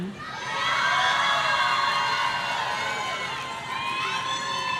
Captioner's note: audience cheering